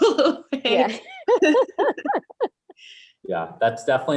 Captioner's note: laughs loudly